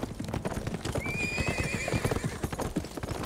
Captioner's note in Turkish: At nalı sesleri; At kişneme sesi